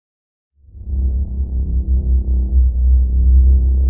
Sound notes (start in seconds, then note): 0.7 eerie whooshing